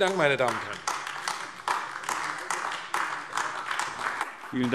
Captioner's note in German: Beifall AfD